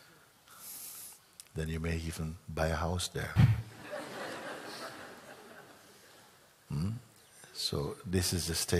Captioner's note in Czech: smích